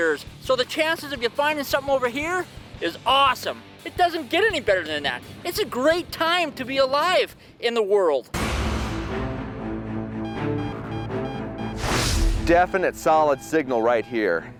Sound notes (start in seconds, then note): 8.3 dramatic music; 8.6 beeping